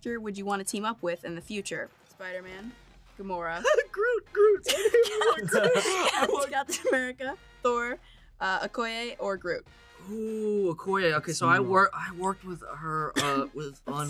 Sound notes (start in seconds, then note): 3.5 Yasmeen laughs; 4.3 laughs